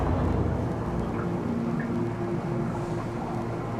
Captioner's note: water bubbling